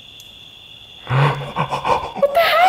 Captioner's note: laughing excitedly; gasps